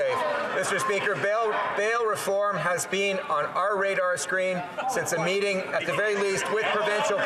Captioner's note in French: voix de l'interprète